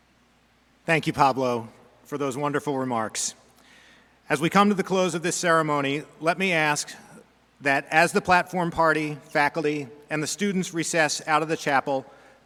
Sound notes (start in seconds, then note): none